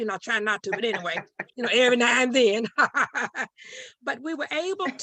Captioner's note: chuckling